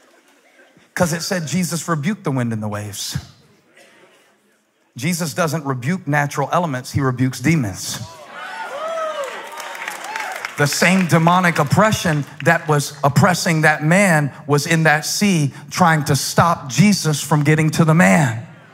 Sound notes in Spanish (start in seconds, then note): 8.7 Aplausos